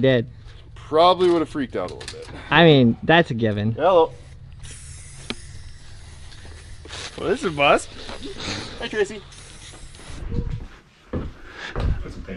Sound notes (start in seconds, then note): 4.6 rattle can spraying